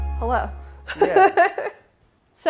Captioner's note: laughs